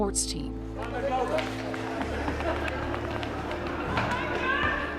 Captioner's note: crowd chatter